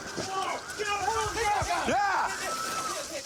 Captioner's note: shouting